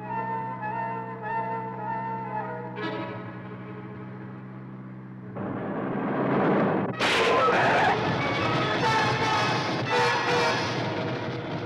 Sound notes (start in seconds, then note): 7.1 tire blows; 8.5 suspenseful music